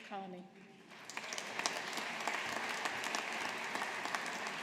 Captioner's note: audience applauding